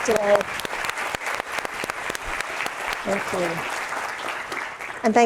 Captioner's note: audience applauding